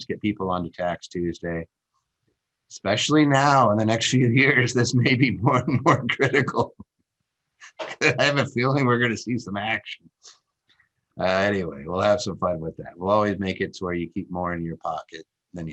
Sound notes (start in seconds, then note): 7.6 laughs